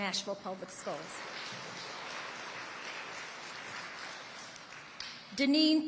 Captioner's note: audience applauding